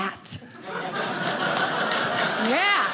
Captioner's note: audience laughing